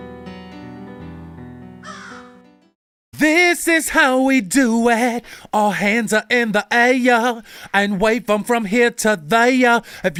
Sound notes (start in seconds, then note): 1.8 bird caws